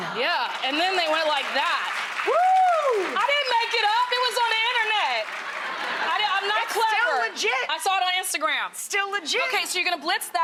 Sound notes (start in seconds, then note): 5.3 audience laughing